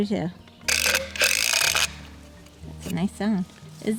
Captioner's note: rattling